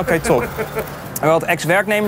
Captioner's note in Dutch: lacht